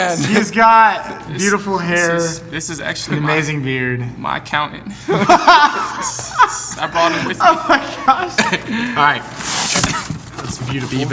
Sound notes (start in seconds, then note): 5.1 laughing loudly